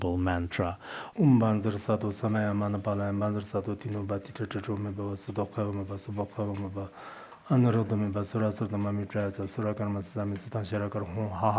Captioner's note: giving oral transmission in Tibetan